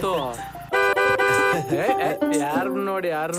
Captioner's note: honking